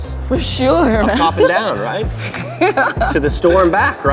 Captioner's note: laughs